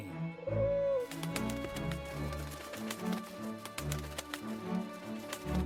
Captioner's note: pigeon wings beating